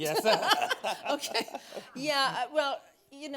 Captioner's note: laughing